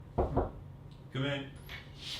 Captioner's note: soft door knocking